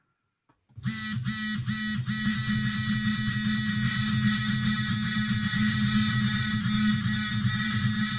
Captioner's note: A phone vibrating